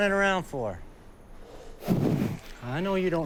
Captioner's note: Samson huffs